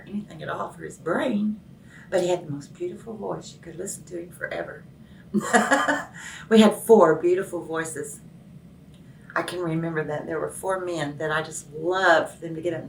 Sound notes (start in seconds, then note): 5.4 laughs